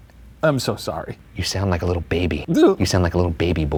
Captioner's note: crying sound